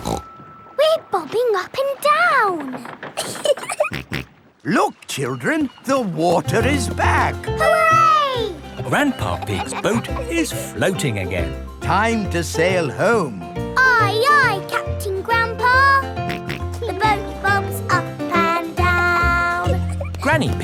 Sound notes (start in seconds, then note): 0.0 snorts; 3.1 giggling; 3.7 snorts